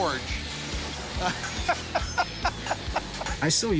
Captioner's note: both laughing